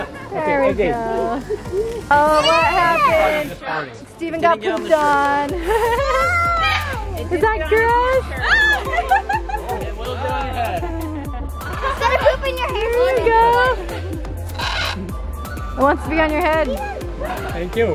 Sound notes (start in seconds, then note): 5.6 chuckles; 8.3 laughs